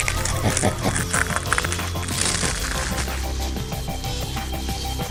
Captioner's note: crunch; monstrous laughing; swish; crunching and grunting; music fades